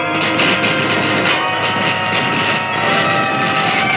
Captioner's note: static crackling